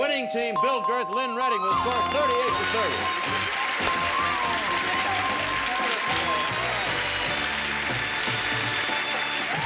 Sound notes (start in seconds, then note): 3.9 audience applause; 5.0 bell dinging